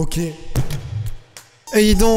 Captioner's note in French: micro qui tombe